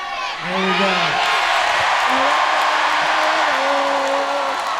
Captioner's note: audience cheering